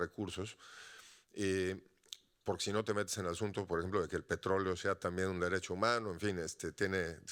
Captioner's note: audience member speaking Spanish continues